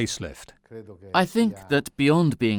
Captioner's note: speaking in foreign language